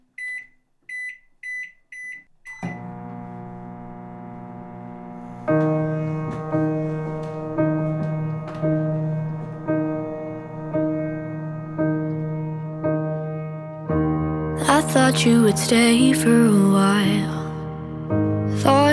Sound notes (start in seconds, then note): 0.2 microwave beeping; 2.4 microwave humming